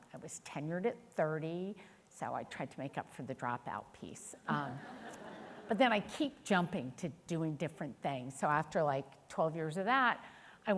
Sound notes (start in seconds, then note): 4.8 audience chuckling